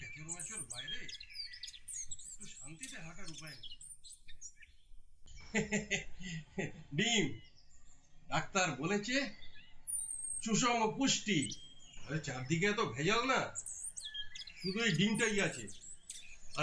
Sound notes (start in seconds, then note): 7.9 laughs